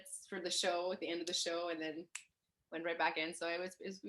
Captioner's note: snaps